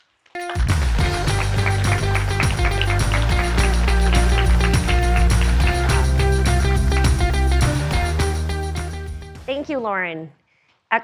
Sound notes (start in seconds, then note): 0.4 audience applauding; 0.4 upbeat music